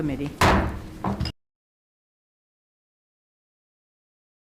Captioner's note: gavel banging